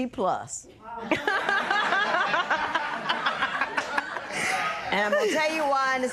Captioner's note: laughter